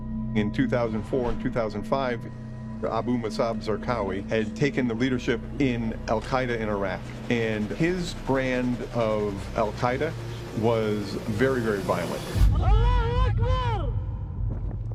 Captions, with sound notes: - In 2004 and 2005, Abu Musab Zarqawi had taken the leadership in Al-Qaeda in Iraq, and his brand of Al-Qaeda was very, very violent. - [speaking Arabic]